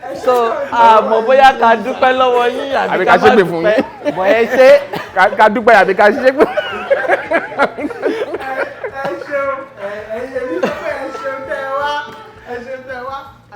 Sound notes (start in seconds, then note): 8.1 everyone laughs